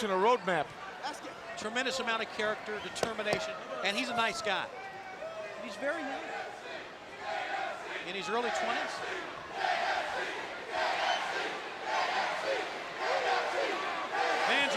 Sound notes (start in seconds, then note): 6.4 crowd cheering